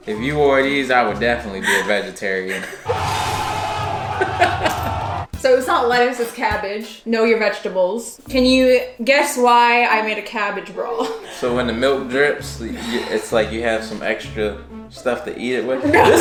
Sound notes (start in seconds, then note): 2.8 crowd shouting; 4.1 laughs